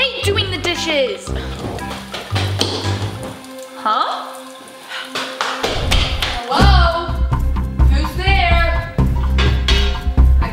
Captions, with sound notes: - (groaning) I hate doing the dishes. (footsteps) Huh? (footsteps) Hello? Who's there?